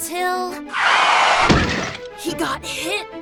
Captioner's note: screeching brakes